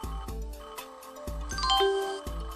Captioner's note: windows startup xylophone